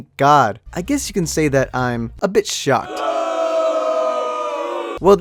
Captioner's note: booooooooooo